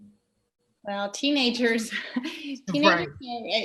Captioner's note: chuckles